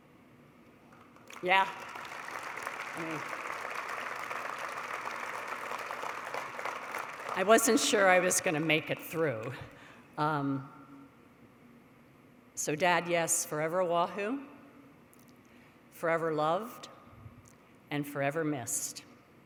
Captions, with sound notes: [APPLAUSE] I wasn't sure I was going to make it through. So dad, yes, forever a Wahoo, forever loved, and forever missed.